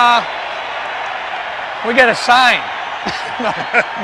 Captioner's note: laughs